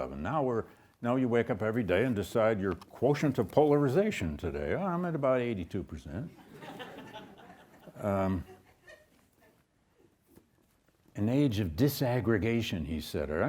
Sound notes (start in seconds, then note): 6.4 audience chuckles